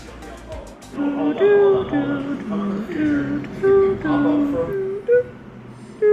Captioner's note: imitates "Family Feud" jingle